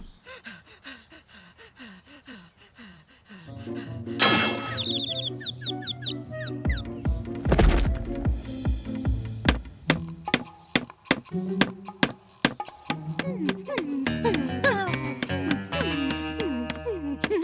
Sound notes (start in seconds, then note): 0.1 breathing heavily; 4.4 birds chirping; 13.2 whimpering